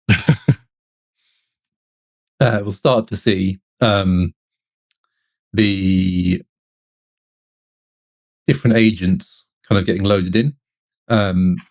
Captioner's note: laughs